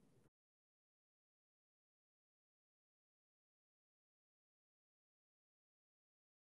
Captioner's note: silence